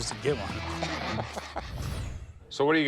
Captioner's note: laughs